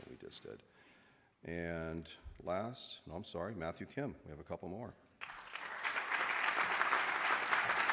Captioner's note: applause